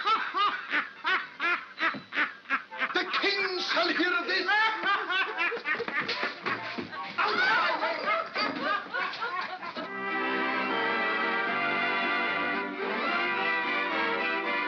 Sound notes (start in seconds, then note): 0.0 Ollie laughs; 5.1 Ollie laughs; 6.9 commotion & laughter; 9.8 jovial orchestral music